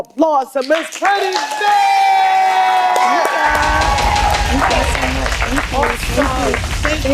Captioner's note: applause